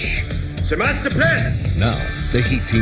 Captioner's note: speaking in German